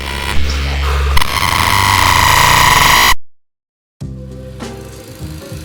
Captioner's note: feedback crackling; light music